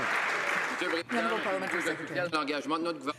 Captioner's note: some Applause